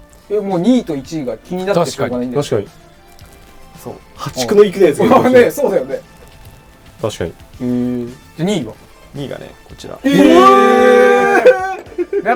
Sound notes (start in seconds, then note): 9.9 louder surprised noises